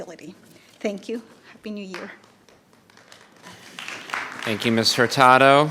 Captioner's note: audience applauding